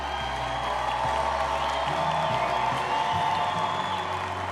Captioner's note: crowd cheering